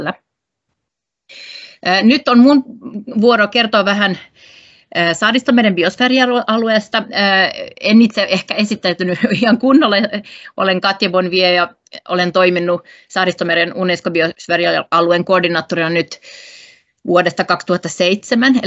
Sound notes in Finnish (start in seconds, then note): 9.2 naurahtaa